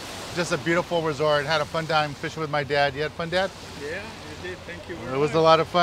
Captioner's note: man speaking foreign language